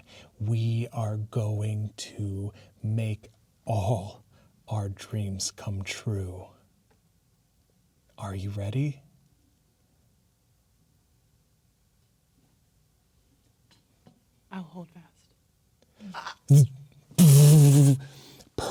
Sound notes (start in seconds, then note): 15.5 gasps